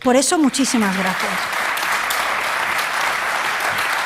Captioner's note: applause